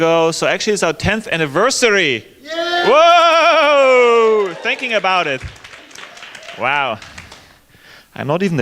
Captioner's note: shouts